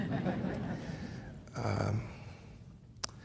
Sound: laughter

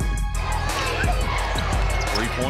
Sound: crowd chanting

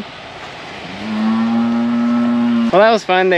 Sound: mooing

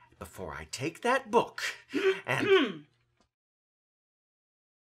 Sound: woman off-screen clearing throat

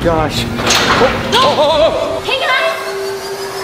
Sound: door opens

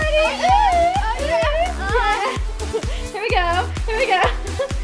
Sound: girls whoop

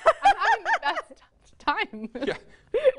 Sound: laughing

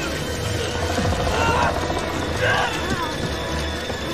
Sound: screaming continues; centipede growls

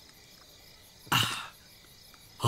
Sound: sighs

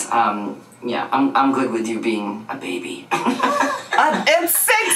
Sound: laughs

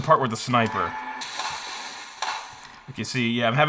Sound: gun shots firing

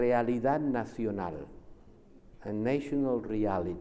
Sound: speaks Spanish

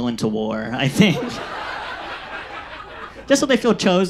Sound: audience laughs

